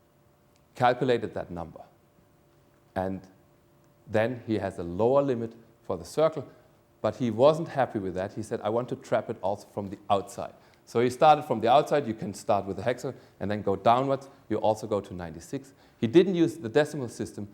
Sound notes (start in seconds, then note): none